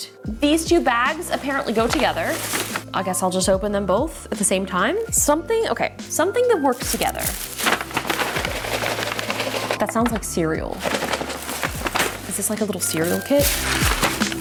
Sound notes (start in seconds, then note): 6.6 wrapper crinkling; 14.1 upbeat music; 14.1 wrapper crinkling